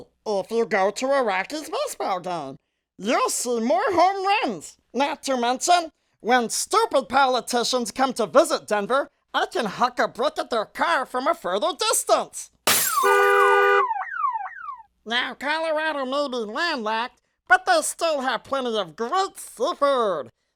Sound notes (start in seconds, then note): 12.6 glass shatters, car horn